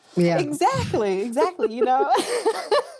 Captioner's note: laughing